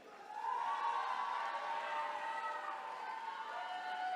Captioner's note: attendees cheering